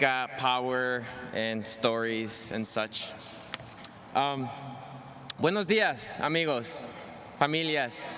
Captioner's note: speaking spanish